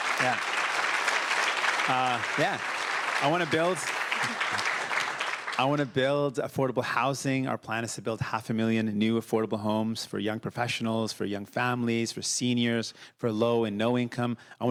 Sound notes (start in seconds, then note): 2.9 cheers; 3.3 applause